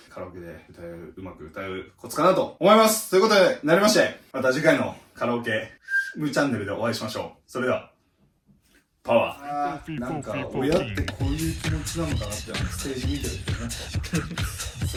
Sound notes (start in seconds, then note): 5.6 whistle